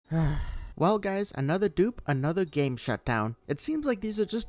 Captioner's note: sigh